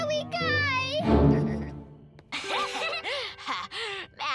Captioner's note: both laugh